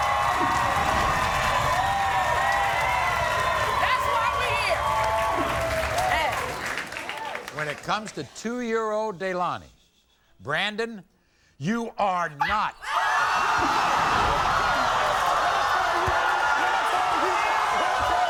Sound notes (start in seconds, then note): 0.0 crowd cheering; 13.1 crowd gasping